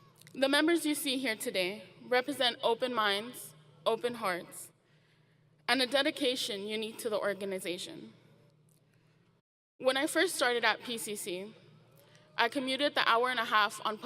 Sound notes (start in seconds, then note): none